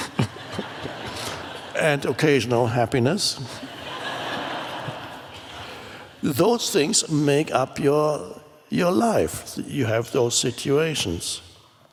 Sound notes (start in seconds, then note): 0.0 Eckhart laughs with audience; 3.4 audience laughs